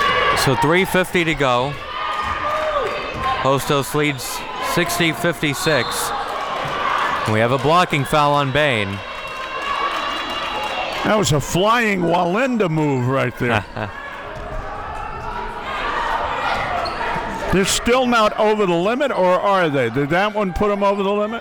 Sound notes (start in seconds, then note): 5.7 whistle blows; 13.4 chuckles